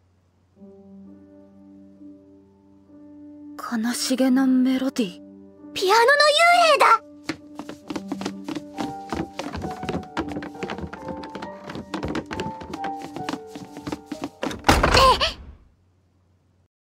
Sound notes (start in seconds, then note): 7.2 running sounds